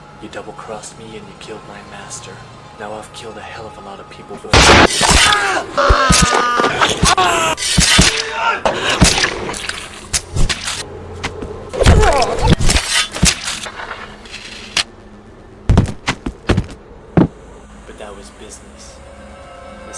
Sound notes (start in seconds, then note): 4.6 gunshot booming; 4.8 blade swishing; 5.4 man screaming; 7.7 blade swishing; 8.8 blood squelching